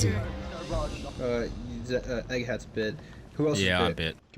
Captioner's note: stutters